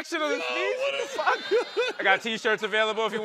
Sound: laughter

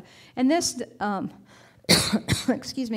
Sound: coughing

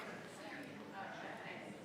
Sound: people chattering

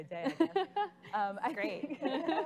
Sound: laughing

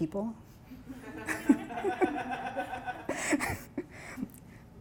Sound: laughing

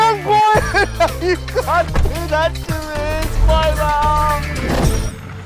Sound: wailing

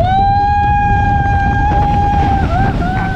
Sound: screaming

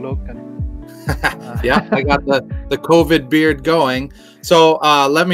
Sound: chuckles

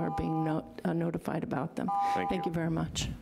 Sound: buzzer rings

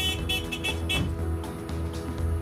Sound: beep beep

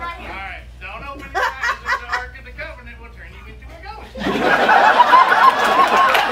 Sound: laughter

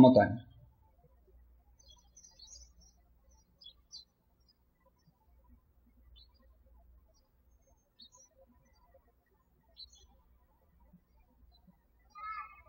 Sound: birds chirping

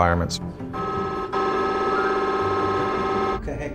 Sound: MRI whirring

